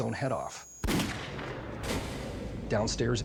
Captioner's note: gunshot